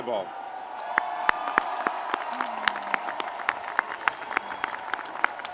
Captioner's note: audience applauds